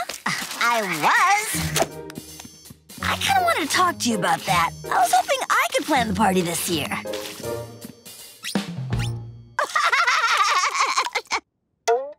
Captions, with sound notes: I was. I kind of want to talk to you about that. I was hoping I could plan the party this year, [laughing]